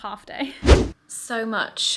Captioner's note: whooshing sound